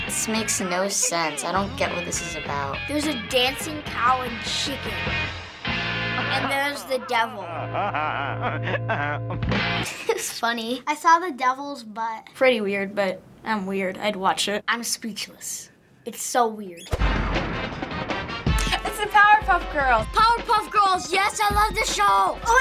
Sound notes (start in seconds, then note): 6.1 Devil cackling; 9.8 laughs